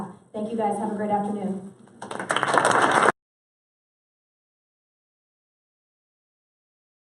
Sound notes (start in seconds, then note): 2.0 applause